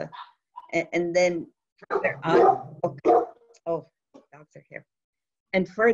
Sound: dogs bark

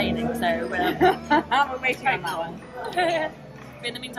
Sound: laughs

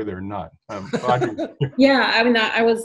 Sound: laughs

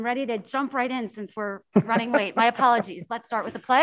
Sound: man laughs

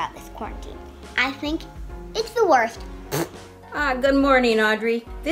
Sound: blows raspberries

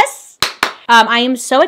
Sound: hands clapping

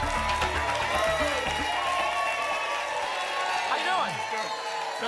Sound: applause and cheering cont

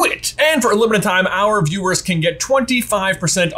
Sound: none

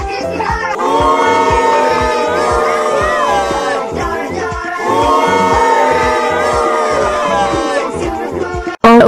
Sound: crowd booing

